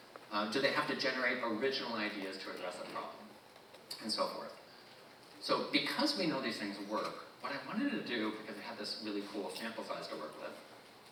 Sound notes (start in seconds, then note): none